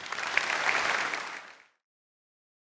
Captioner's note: applause